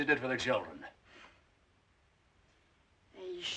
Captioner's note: scoffs